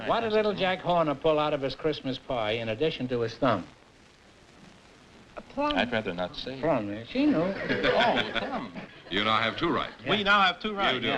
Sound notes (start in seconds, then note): 7.3 laughter